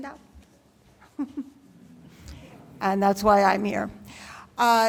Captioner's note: laughs